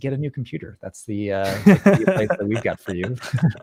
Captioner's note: laughs